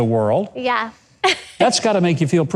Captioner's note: giggles